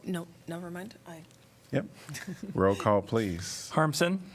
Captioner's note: laughter